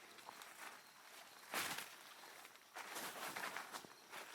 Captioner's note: branches rustling; footsteps pattering